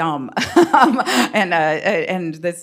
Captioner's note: chuckles